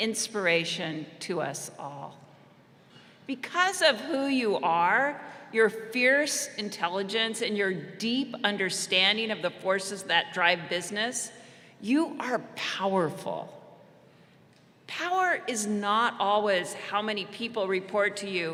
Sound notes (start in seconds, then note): none